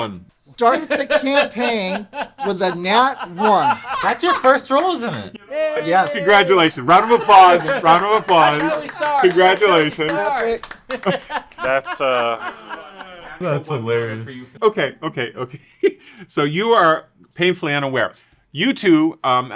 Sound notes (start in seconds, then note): 0.6 laughs in the background; 4.4 adds her laughter to the background; 9.7 several people clap in background; 13.0 laughter begins to die out in background; 15.5 small laugh